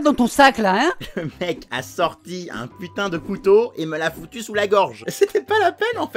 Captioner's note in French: rires